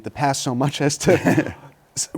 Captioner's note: laughter